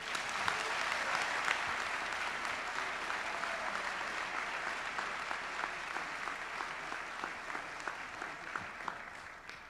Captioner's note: applause